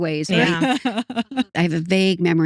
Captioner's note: both Laughing